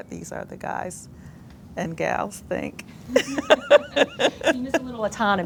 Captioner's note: laughs